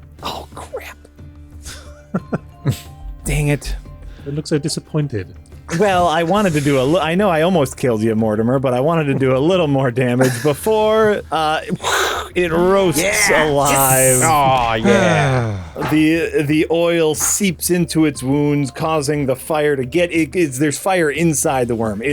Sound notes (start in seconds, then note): 10.9 fire noises